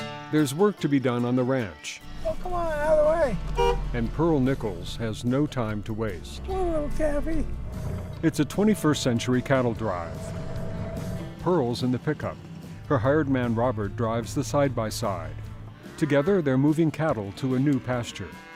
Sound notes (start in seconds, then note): 0.0 upbeat guitar music; 2.1 horn beeps